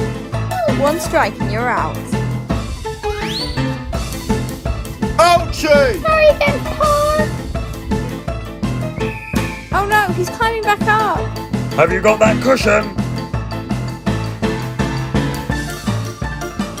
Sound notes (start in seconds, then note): none